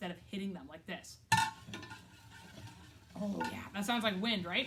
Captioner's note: rubs stick on can